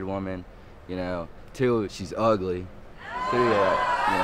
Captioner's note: audience exclaim